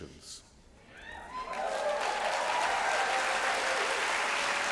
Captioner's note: applause